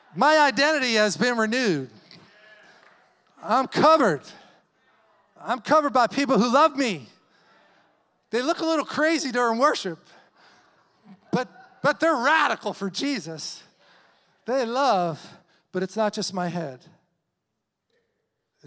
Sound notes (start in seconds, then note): 2.4 congregation applauding